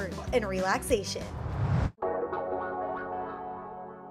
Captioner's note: whoosh